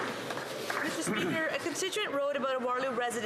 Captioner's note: some Applause